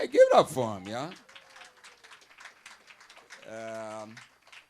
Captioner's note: audience applauding